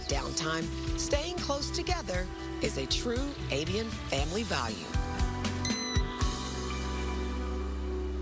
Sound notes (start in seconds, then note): 6.2 owlet cries